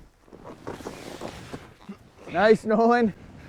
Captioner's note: grunts